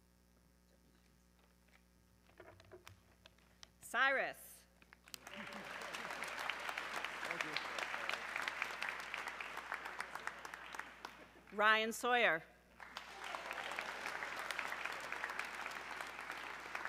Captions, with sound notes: Cyrus! (audience clapping) - Thank you. - Ryan Sawyer, (audience clapping)